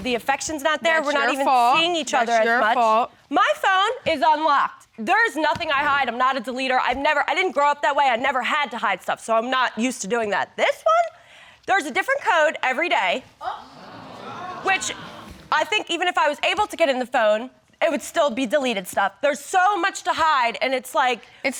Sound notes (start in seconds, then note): 14.8 audience gasping